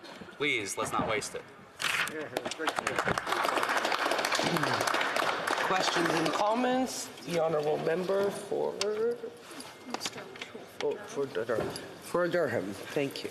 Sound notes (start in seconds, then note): 5.9 some Applause